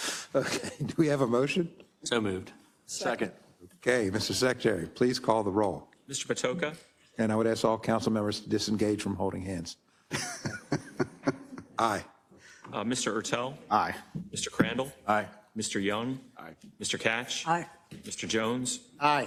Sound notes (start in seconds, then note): 0.6 laugh; 10.1 laugh